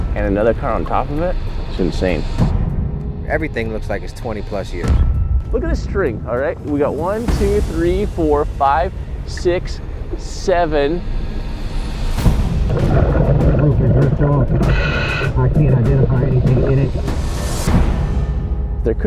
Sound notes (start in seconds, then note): 2.8 bass thuds; 4.8 bass thumps; 12.1 bass booms; 12.4 water churning